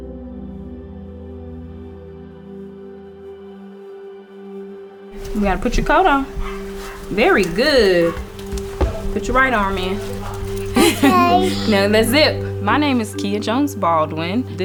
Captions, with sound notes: You gotta put your coat on. Very good. Put your right arm in. (laughs) - Now let's zip. My name is Keia Jones-Baldwin.